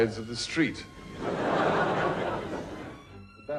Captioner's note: audience laughs